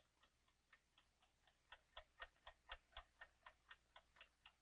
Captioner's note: clock ticking